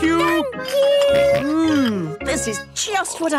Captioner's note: snorts